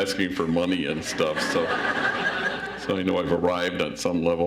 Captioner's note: audience laughs